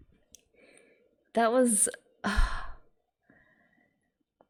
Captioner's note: sighs